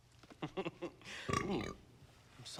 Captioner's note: burp